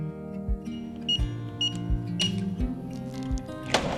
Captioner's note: beeping